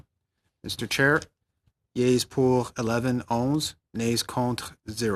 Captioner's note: speaking French